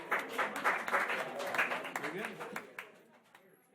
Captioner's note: applause